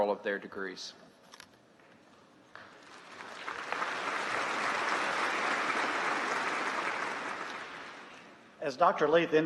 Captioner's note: applause